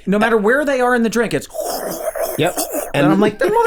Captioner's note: slurping